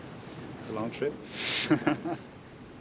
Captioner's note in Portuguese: risos